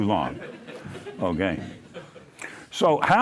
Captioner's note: laughter